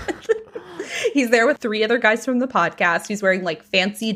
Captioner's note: laughing